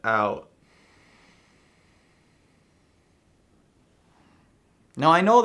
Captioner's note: exhales slowly